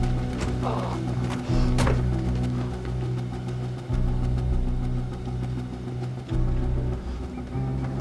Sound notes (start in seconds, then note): 0.1 grunting, groaning